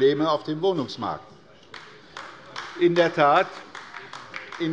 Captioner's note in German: Beifall bei der LINKEN